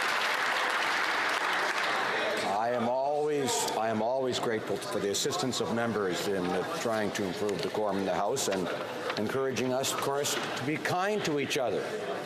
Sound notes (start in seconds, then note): 0.0 applause